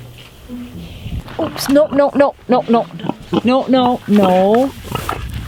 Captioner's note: pig snorting